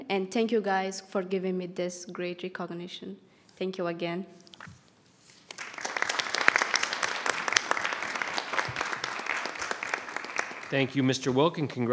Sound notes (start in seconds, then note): 5.4 audience applauds